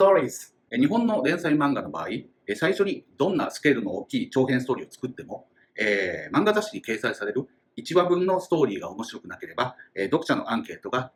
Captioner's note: speaking Japanese